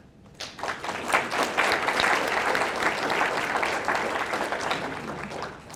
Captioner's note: audience applauding